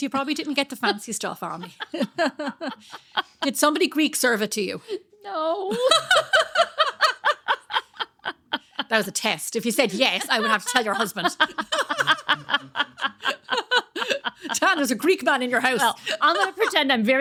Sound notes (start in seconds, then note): 1.4 laughing; 7.3 laughing; 14.4 laughing